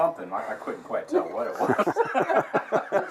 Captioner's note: laughter